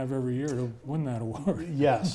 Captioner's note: chuckles